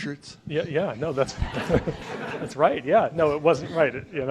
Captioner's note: audience laughs